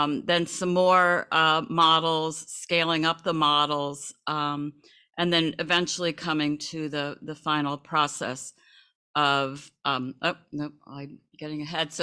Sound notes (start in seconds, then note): none